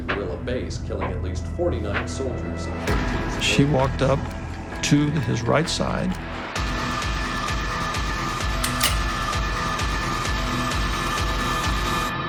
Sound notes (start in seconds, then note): 8.6 gun cocks